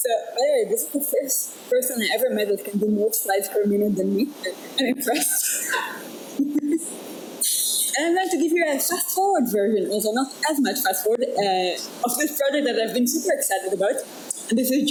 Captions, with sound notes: So, all right, this is the first person I've ever met with who can do more slides per minute than me. I'm impressed (laughs) I'd like to give you a fast-forward version, although not as much fast forward of this project that I've been super excited about.